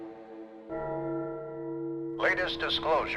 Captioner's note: bell tolling